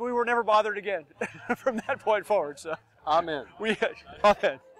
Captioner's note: laughing